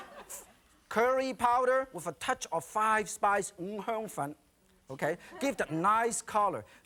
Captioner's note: audience laughing; foreign language